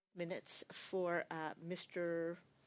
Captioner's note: speaking French